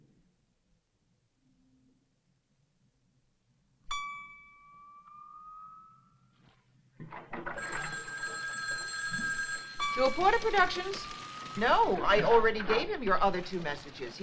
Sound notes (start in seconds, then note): 3.9 lightly chimes; 6.5 water softly splashing; 7.1 phone ringing